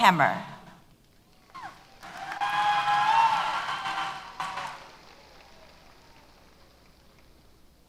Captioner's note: applause & Cheers